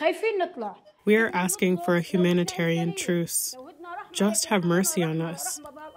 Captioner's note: through translator